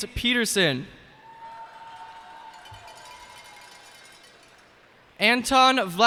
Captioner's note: cheers and applause